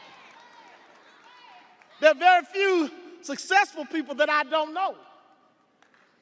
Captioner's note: audience cheering